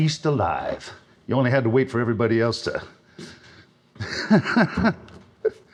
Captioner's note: chuckling